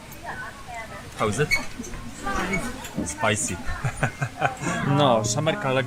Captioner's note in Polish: hahahahaha